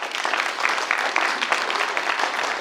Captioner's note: applause